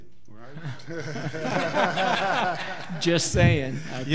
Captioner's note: laughing